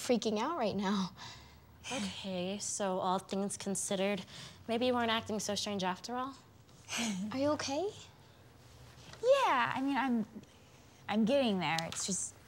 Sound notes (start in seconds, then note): 6.9 Eliza sighs